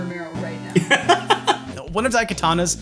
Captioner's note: laughing